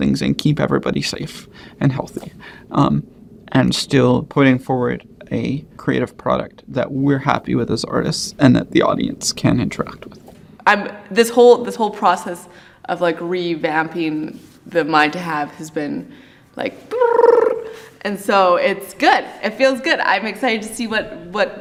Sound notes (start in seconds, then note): 16.9 trills